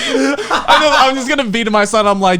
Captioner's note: all laughing